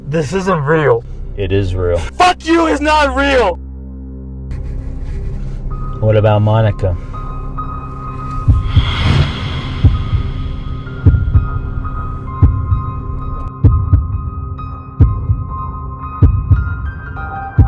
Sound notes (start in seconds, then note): 9.5 heartbeat thumping; 11.5 eerie music